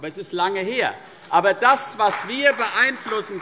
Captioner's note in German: Beifall CDU und BÜNDNIS 90/DIE GRÜNEN